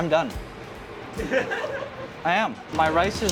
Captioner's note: people laugh